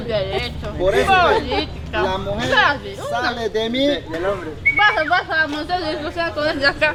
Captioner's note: whistles